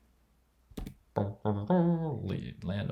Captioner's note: mimicking trumpet